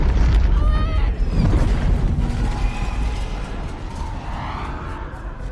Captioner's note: whooshing